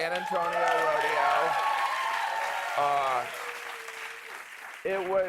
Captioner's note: cheers and applause